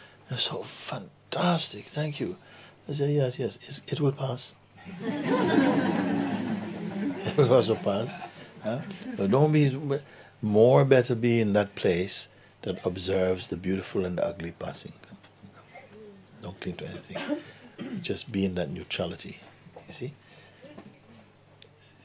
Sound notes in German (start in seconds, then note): 4.8 Lachen